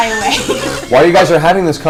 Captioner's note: all laugh